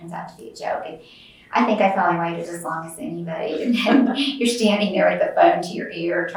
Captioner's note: laughs